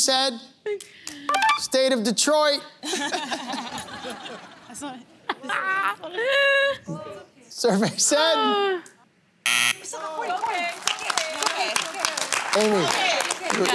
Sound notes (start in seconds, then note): 2.7 laughs; 9.4 buzzer; 10.2 applause